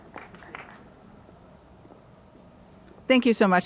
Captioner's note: applause